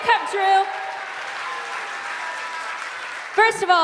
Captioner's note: cheers and applause